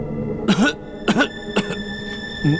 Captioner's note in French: Tousse